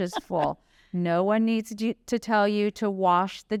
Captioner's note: laughter